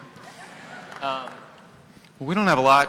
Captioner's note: laughter